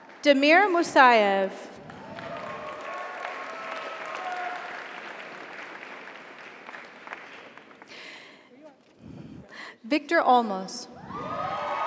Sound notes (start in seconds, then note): 1.8 audience applauds; 1.8 audience cheers